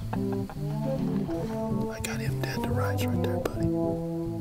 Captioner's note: whispering